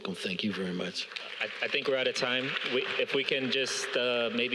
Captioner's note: audience applauding